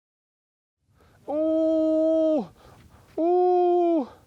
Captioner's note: excited yells